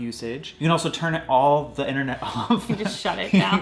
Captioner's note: laughs